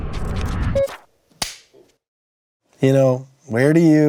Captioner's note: clapperboard snaps